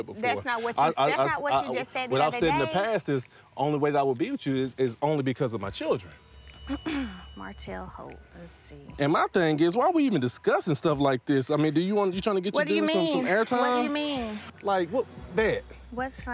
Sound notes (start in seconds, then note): 6.7 clears throat